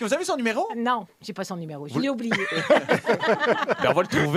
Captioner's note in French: rires